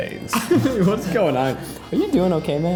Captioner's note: laughs